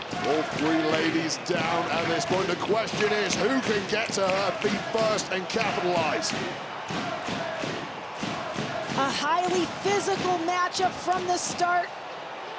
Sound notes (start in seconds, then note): 6.5 crowd chanting; 6.5 crowd cheering